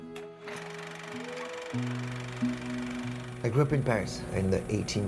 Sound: soft music; projector whirs

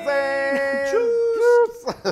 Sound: laugh

